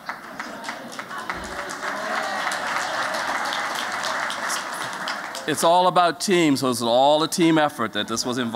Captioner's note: �applause�